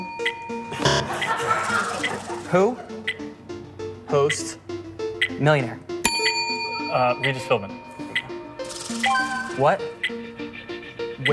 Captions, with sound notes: [bell dings] CLASSROOM. [buzzer] Who hosts Millionaire? [bell dings] Uh, REGIS PHILBIN.